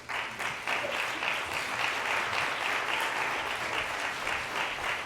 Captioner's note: applause